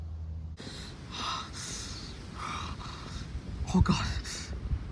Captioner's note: Ryan breathing heavily